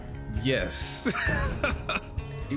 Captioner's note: laughs